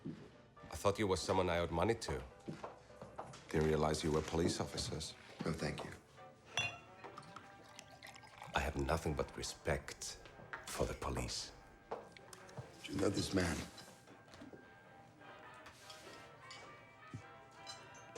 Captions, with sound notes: I thought you were someone I owed money to. Didn't realize you were police officers. - No, thank you. (bottle clinks) (alcohol splashes) - I have nothing but respect for the police. - Do you know this man?